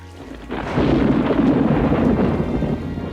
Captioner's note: thunder rumbles